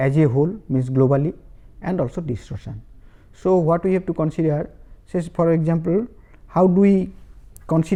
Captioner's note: distortion